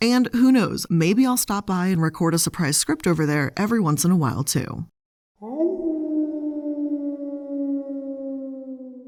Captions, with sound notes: And who knows, maybe I'll stop by and record a surprise script over there every once in a while too. (wolf howling)